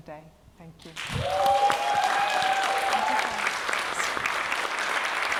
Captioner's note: applause